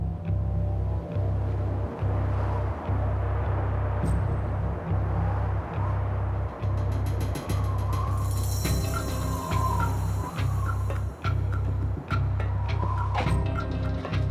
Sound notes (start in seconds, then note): 0.3 tense music; 6.4 wind howling; 12.1 tense music